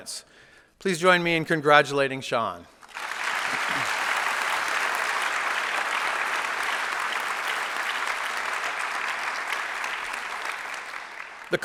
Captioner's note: applause